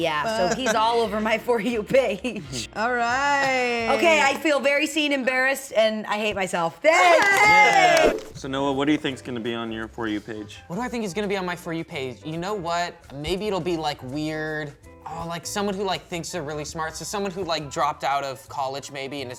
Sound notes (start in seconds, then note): 6.9 cheer